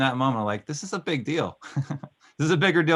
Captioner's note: laughing